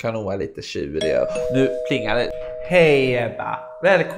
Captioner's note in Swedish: Dörrklockan ringer